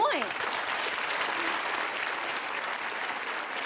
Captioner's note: applause